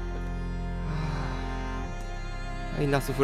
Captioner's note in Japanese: ため息